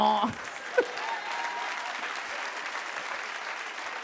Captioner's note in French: le public applaudit